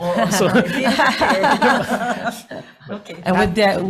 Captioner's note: all laughing